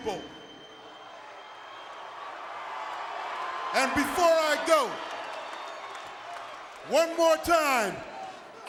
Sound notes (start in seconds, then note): 1.1 applause